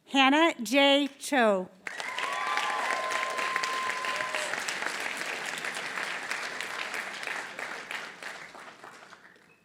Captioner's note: applause